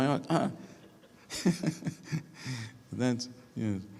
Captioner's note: laughing